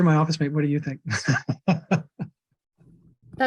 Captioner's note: chuckles